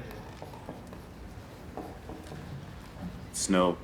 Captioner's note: marker tapping a dry erase board